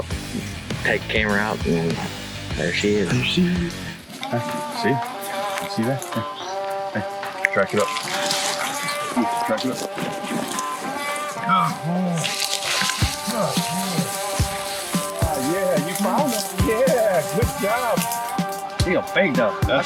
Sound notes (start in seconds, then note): 8.3 dog running; 12.8 leaves crunching